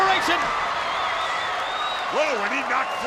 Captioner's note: spectators cheering